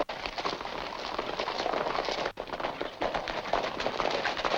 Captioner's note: horses galloping